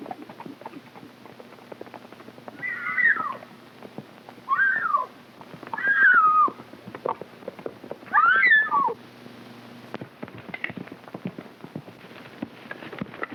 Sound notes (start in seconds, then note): 2.7 Mary shrieking; 9.9 hooves clopping